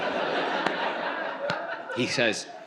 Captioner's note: audience laughs